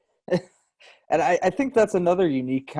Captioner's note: laughs